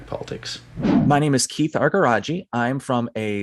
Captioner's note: transition swooshing